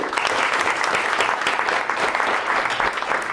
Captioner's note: applause